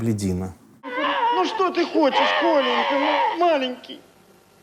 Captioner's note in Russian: рыдает